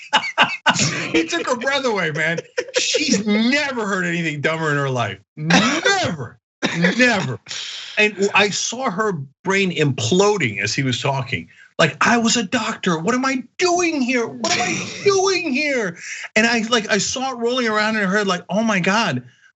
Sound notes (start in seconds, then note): 6.6 laugh